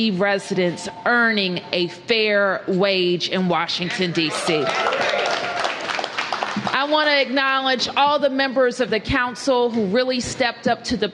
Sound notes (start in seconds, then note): 4.4 applause